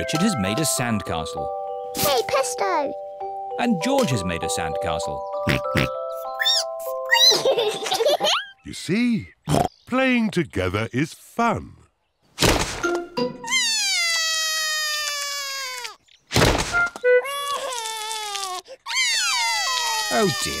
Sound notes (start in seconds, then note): 5.4 oinks; 5.8 squeaks; 7.1 both giggle; 13.5 cries; 17.2 cries; 19.2 both cry